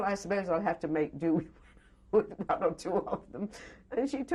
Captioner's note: laughs